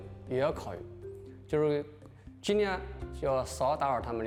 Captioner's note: speaking chinese